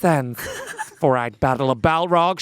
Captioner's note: laughing